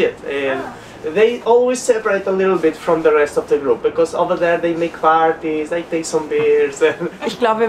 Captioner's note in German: Lachen